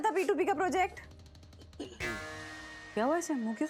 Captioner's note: clears throat